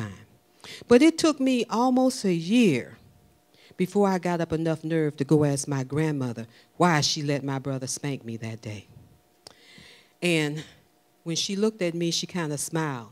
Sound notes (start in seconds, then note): none